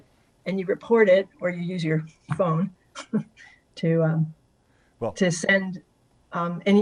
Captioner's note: giggles